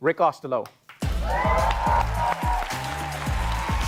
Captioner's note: upbeat music; cheering